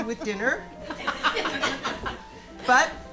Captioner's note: audience laughing